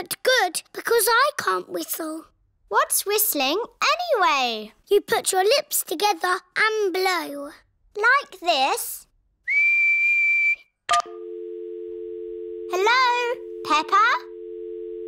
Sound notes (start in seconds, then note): 9.4 whistles; 11.0 dial tone beeping